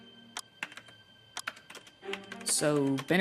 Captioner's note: clock ticking